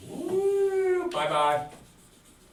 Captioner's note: moans